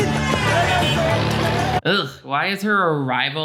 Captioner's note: cars honking